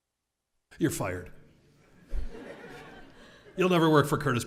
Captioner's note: laugh